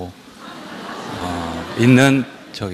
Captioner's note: audience Laughter